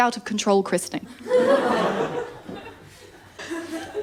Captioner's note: laughter